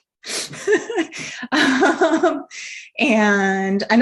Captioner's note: laughing